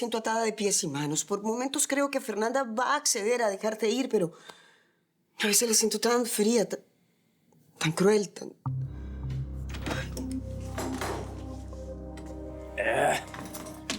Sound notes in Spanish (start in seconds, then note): none